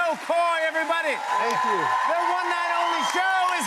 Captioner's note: cheers and applause continue